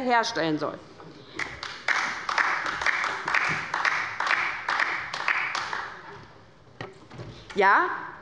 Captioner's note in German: Beifall bei der LINKEN